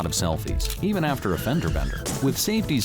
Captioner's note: brakes squeal, cars crash